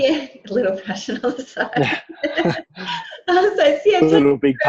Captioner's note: laughs